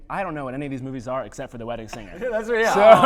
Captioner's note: laughter